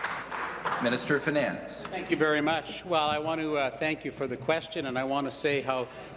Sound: applause

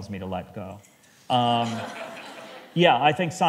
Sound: laughter

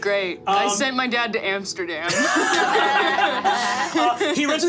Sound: group laughing

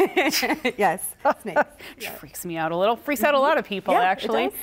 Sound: laughter

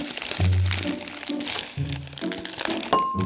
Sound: plastic bag crickling

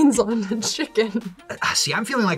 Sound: none

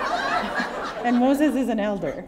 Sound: laughter

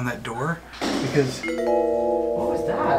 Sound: clattering noises

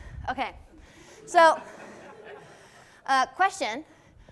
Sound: class chuckling

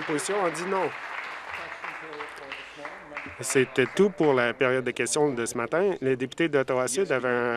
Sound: applause

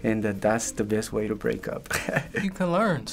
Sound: laughing

